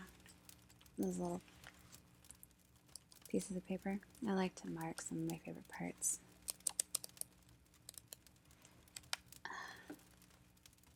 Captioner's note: flips pages